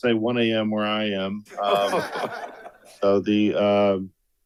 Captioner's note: attendees laughs